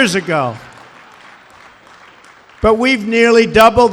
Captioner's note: laughter and applause